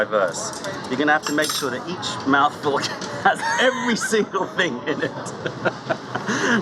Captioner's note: laughter